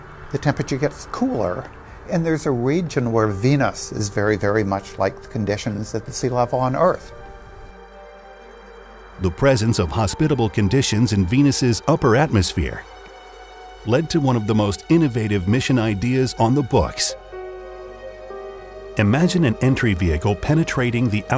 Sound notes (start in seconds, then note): 6.8 gentle music; 6.8 wind whooshing